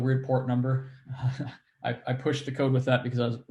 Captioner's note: laughs